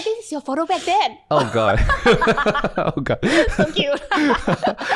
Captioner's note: laughter